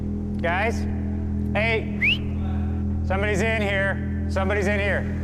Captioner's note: whistles